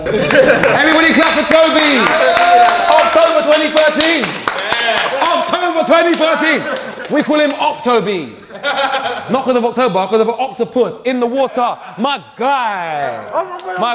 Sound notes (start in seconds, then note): 0.2 applauds; 2.1 group applauds; 8.5 Vik laughs